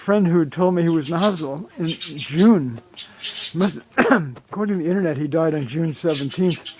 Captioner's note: coughs